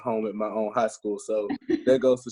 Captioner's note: laughs